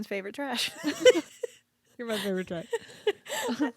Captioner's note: both laughing